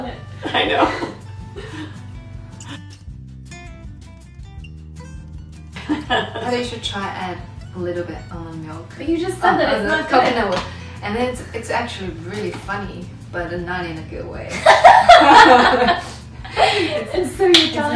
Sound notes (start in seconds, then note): 1.5 laughing; 14.6 laughing